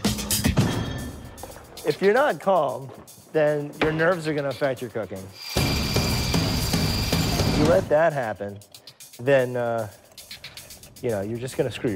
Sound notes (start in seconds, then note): 5.4 whirring